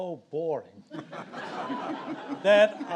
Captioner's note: audience laughs